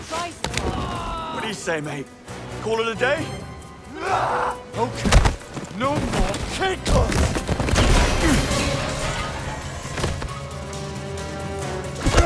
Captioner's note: screaming